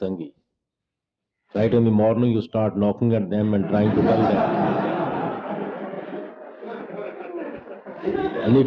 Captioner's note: laughter